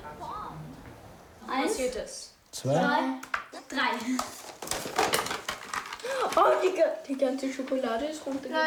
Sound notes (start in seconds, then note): 1.9 speaking in foreign language